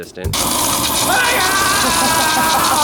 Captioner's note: flames roaring